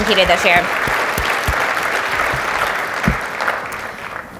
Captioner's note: audience applauds